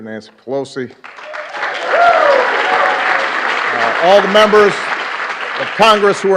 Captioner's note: applause